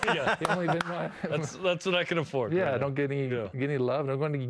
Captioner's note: laughter